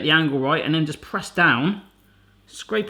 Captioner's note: none